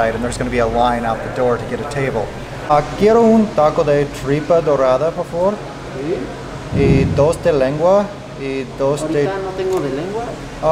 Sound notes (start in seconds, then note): 2.8 speaking in foreign language; 6.1 waiter speaking in foreign language; 6.9 speaking in foreign language; 8.8 waiter speaks in foreign language